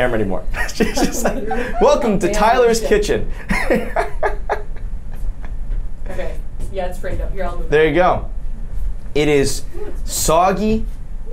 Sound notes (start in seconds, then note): 5.4 laughs